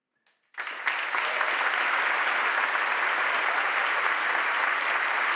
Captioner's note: audience applauding